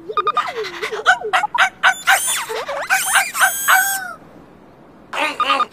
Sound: barking

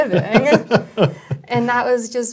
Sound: laugh

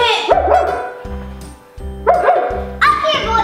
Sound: gorilla barking

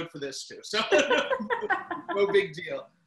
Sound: laugh

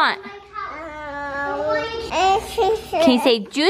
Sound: mumbling

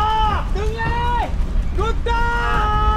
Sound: Alex screams in foreign language

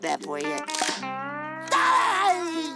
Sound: crying

